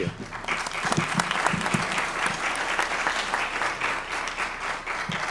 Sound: applause

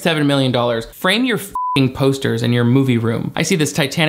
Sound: beep

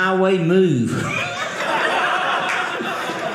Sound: audience laughing

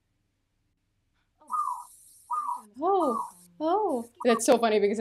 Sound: bird noises; imitating the birds

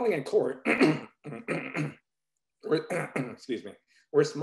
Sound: clears throat

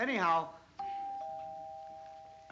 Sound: doorbell

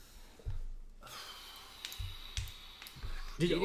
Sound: sighs

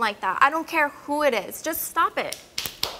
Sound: audience applauds

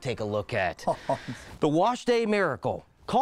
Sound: chuckling softly

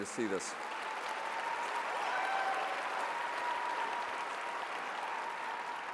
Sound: audience applauds and cheers

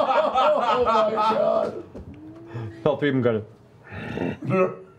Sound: grunt

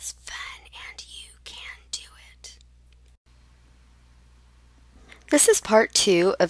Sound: whispers

